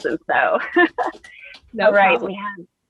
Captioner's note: laughs